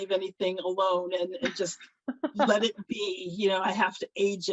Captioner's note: laughs